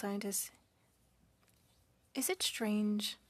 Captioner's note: speaking French